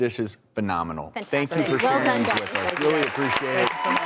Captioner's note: clapping